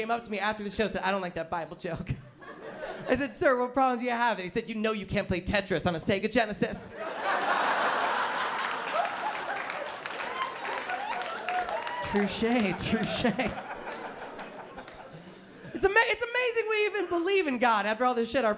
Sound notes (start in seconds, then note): 7.5 laughter; 14.2 laughter